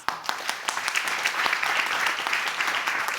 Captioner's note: audience applauding